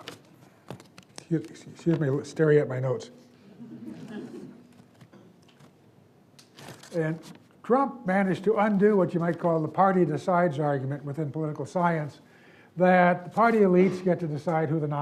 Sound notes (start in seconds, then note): 3.6 audience giggles